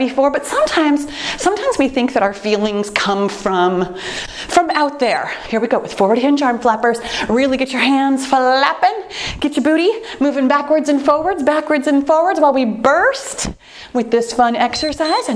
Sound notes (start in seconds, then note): 4.5 timer beeps; 14.6 timer beeps